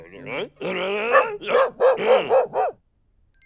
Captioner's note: woof woof woof woof woof